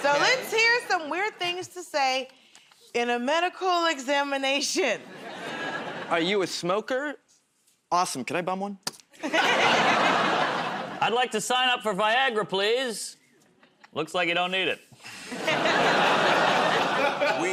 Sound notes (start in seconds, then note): 3.1 nervously; 9.2 laughter